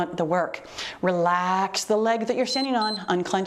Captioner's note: timer beeps